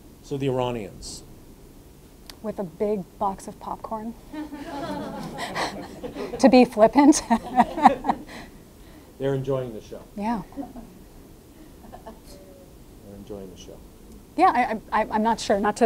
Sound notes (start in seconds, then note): 4.3 audience laughing; 8.2 laughing